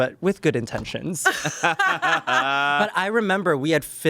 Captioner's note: everyone laughs